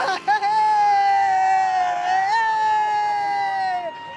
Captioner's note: cheering